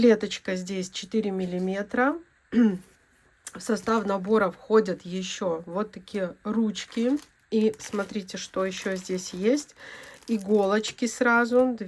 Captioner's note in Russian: откашливается